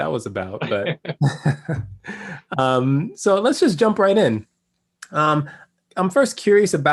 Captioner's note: laugh